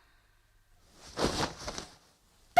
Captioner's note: SFX: removes bed cover